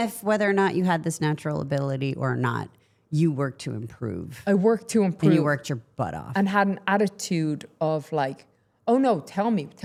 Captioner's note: none